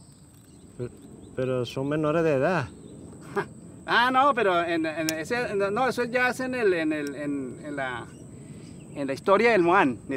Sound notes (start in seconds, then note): 1.4 speaking in foreign language